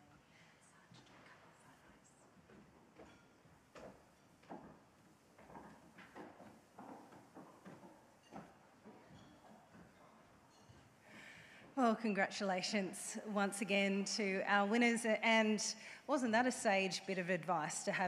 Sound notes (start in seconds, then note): 4.4 footsteps thumping